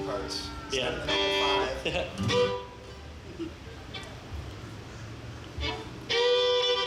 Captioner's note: laughs; ozarks fiddle music